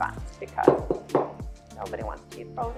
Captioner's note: thuds on table